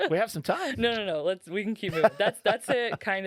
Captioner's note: laughing; laughing